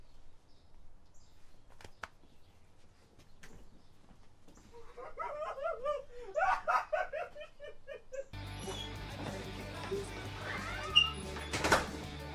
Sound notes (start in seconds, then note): 4.7 Clyde crying; 8.3 metal music